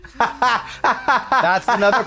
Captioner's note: Trixie cackles